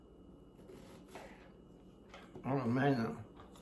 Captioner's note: knife slices